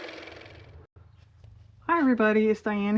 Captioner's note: car motor